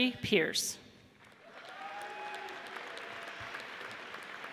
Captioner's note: audience cheers